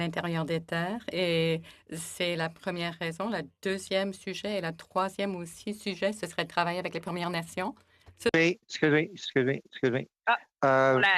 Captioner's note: speaking French